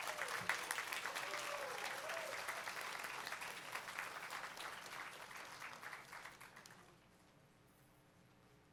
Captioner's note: applause